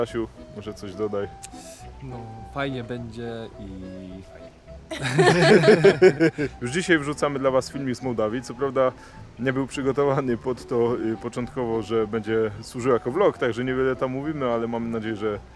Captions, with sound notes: Stanley, You can add some words ... So it will be good... and that's good! (laugh) Today we share a video of Moldova. Although we were not planning that those recordings we will use to make that vlog so we are not talking a lot on it,